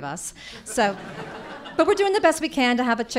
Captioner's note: audience laughing